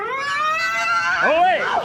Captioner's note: charging rooooar!!!